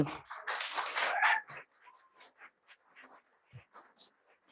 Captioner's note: attendees clapping